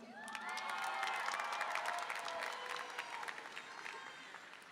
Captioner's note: applause and cheering